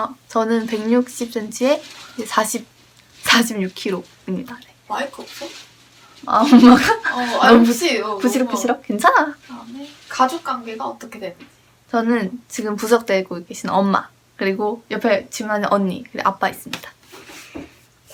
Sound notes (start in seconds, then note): 6.2 sound of mom opening Lunar New Year presents in the living room~